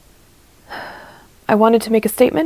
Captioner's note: sad sigh